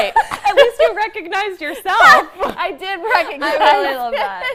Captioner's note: laughter